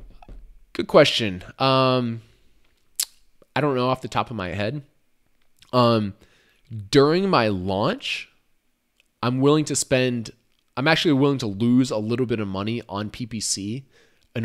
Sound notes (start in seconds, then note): none